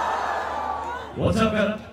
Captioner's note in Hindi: चियरिंग